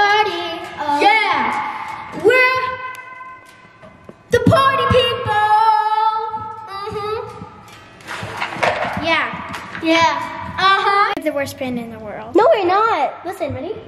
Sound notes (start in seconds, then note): 8.2 instruments rattling